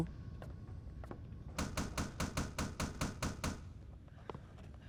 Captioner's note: knocking